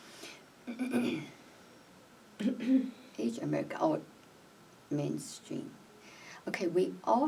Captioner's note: clears throat